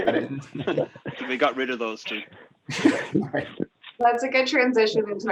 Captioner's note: laughing; laughs